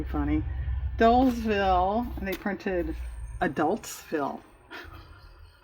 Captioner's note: laughs